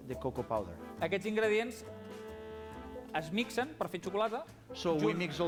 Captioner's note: non-english speech